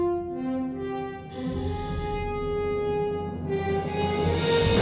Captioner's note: respirator hisses